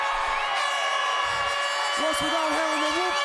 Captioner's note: crowd chatter; crowd cheering